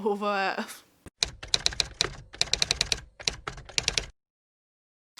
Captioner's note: typewriter Typing